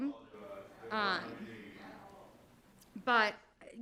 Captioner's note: speaking faintly off mic